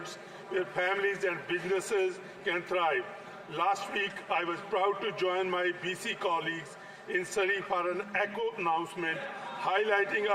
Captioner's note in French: voix de l'interprète